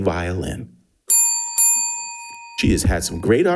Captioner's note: bell dinging